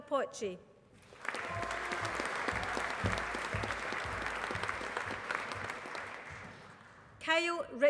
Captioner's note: applause